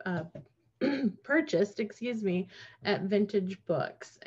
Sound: clears her throat

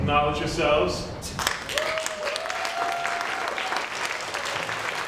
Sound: applauding

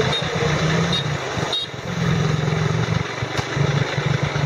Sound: beeping

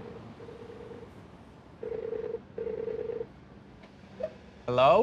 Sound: ringing

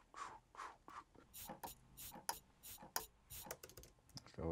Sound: scraping

